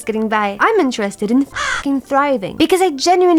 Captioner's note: crow